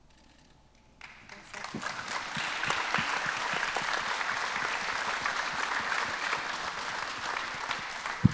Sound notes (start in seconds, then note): 1.0 audience applause